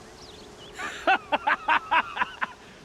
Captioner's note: laughs